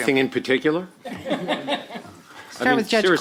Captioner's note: laughter